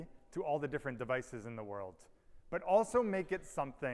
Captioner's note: none